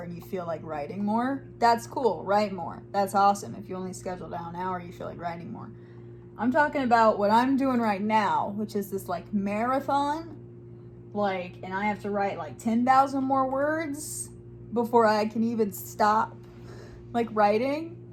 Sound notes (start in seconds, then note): none